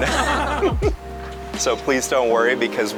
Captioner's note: all laughing